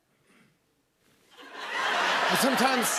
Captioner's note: laughter